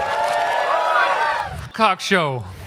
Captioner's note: applause and Yelling